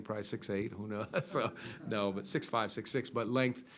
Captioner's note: laughs